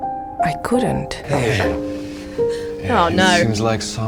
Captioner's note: Mary gasps